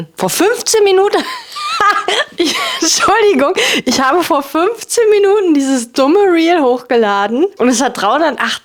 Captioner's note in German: gelächter